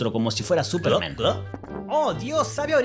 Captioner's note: gulp-gulp!